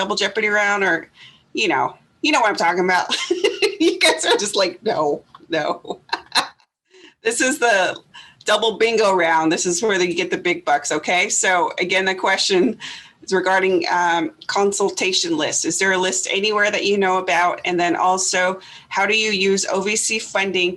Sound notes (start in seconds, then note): 2.3 laughs